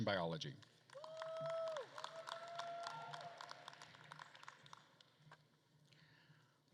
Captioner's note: attendees cheering and applauding